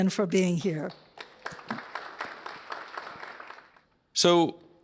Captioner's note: applause